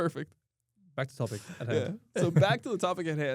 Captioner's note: laughs